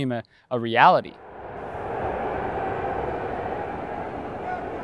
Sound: audience cheering

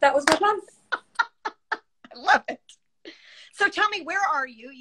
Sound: laughs

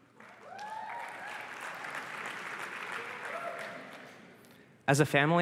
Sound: applause and cheering

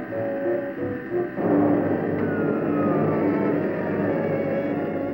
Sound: machine shutting down

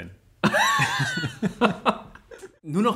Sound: laughs

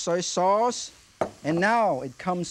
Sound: bottle thuds softly

